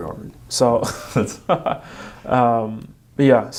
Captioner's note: laughing